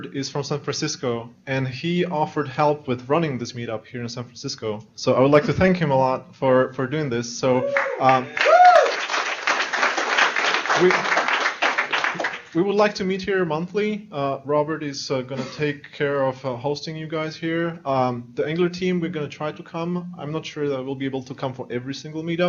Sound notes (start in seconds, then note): 7.6 applause